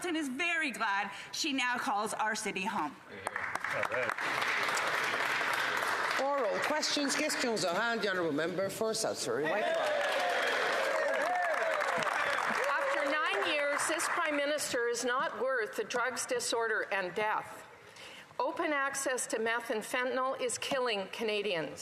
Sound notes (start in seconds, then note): 9.5 some Applause